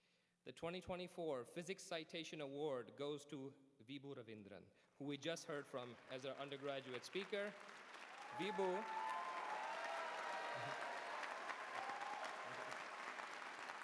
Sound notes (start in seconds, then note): 8.7 cheering